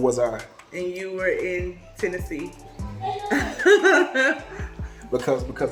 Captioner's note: laughs